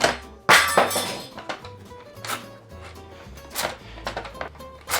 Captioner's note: knife clatters on floor